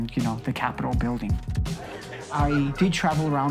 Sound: patrons laughing

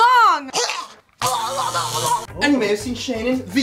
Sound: gags; grunts

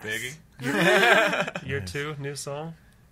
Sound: laughs

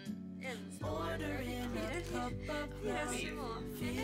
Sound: laughs

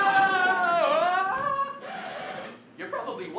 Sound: record scratch

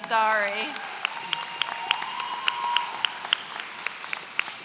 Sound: audience cheering

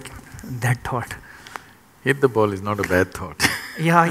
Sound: laughs

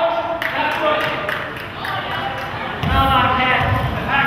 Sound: spectator claps

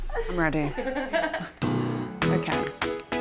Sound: people laughing

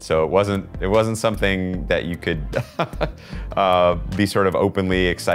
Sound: laughs

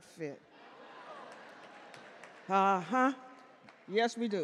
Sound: audience cheer and clap

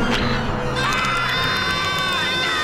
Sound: screaming

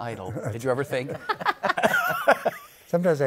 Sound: laughter

